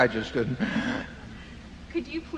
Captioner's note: laughs